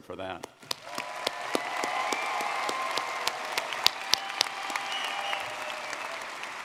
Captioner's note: audience clapping and cheering